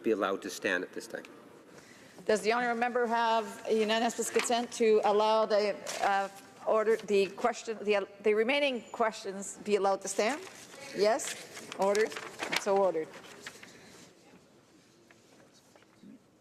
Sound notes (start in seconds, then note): 2.9 speaking French